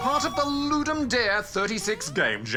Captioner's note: chuckles